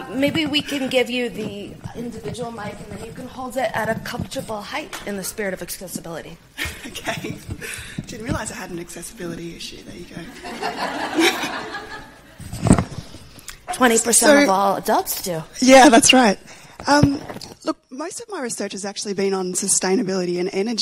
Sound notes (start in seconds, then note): 6.6 presenter laughs; 10.2 audience laughs